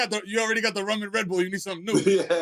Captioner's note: laughter